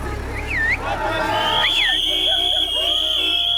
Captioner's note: cheering and shouting; whistle blows and car horn honks